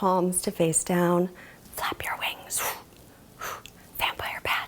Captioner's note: exhaling sharply